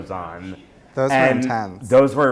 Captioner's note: voiceover